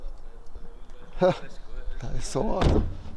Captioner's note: sighs